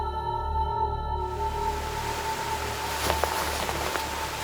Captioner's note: water rushing